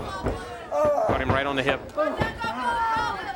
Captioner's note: crowd chatter